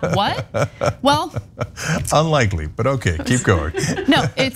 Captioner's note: laugh